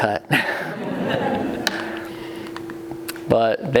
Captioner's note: laughing